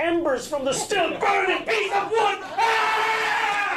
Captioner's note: screaming